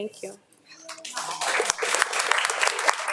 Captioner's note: audience applauding